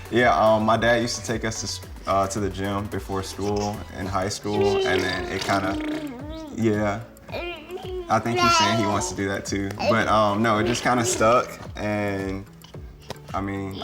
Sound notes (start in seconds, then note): 0.0 laughs; 7.2 baby babbling